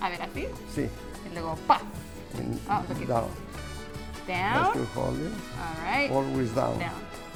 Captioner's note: in Spanish